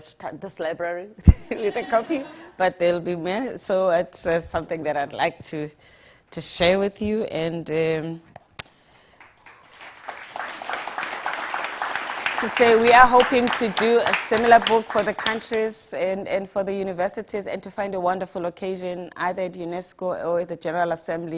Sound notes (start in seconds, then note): 1.3 audience laughing; 9.1 audience applauding